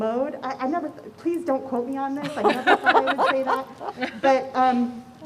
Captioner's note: laughter